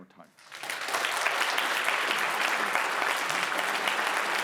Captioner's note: audience applauding